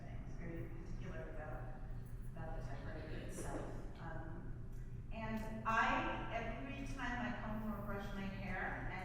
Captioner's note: none